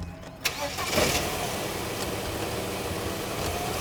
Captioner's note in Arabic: يعمل المحرك